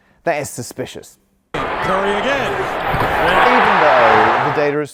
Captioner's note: crowd cheers